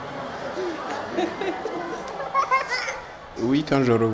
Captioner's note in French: rires